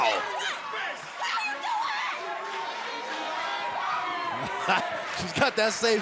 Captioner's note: crowd cheering